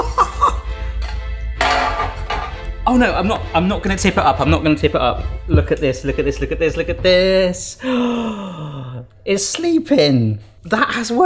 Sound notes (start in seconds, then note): 7.7 gasps